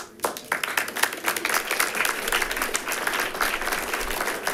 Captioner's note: all clapping